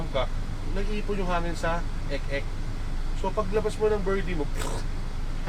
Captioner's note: pffft